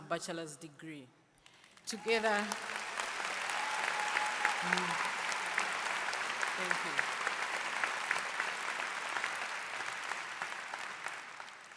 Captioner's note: applause